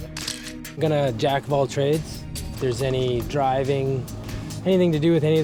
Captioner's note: camera shutter clicks